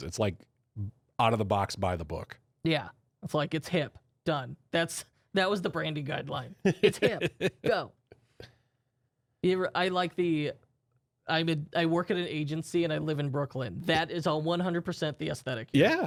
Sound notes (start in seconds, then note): 6.8 softly laughing